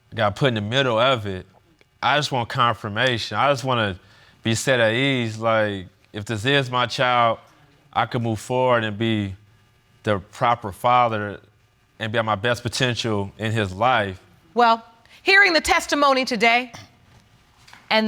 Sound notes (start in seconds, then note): none